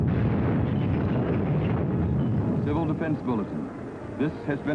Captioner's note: loud explosion